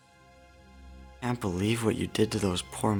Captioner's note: dramatic sounds